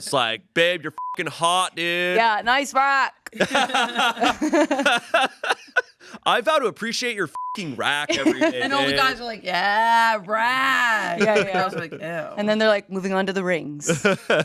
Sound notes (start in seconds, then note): 0.9 beep; 3.3 everyone laughs; 7.3 beep; 13.9 everyone laughs